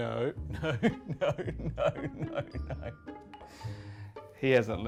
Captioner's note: laughs